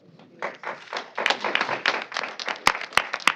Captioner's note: applause